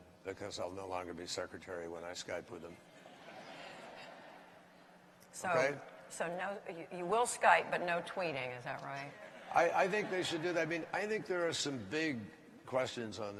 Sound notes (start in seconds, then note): 2.9 laughter; 7.7 laughter